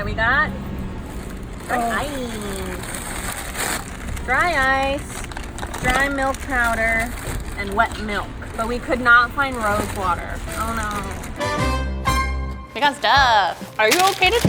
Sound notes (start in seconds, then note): none